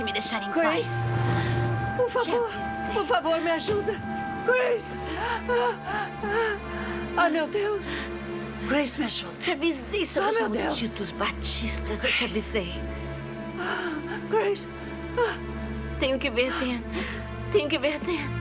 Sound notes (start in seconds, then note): 3.4 groans; 12.7 gasping